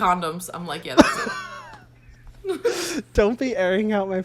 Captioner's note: both laugh